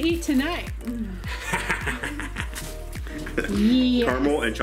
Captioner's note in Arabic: ضحك